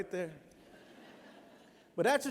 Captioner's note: laughter